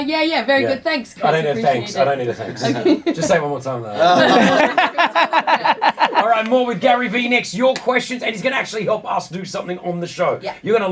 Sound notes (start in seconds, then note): 3.9 laughing